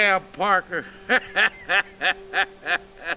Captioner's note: laughs